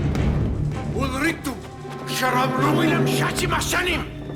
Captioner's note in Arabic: الصوت المنطوق البدوي